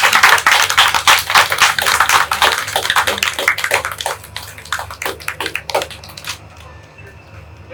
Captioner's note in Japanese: 会場：拍手